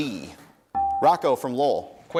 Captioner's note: dinging